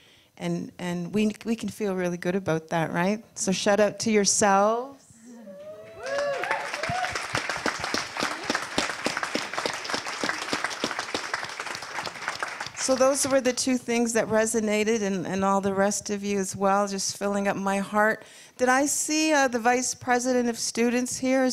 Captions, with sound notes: And, and we, we can feel really good about that, right? So shout out to yourselves. [audience applause] So those were the two things that resonated, and, and all the rest of you as well, just filling up my heart. Did I see, uh, the Vice President of Students here?